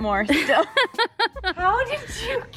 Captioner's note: laughing